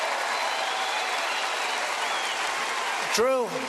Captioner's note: cheers and applause